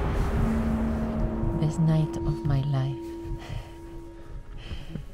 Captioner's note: laughs